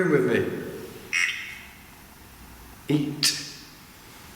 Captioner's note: voice over the machines